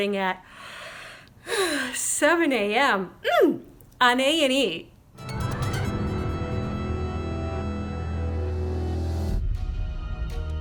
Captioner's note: yawns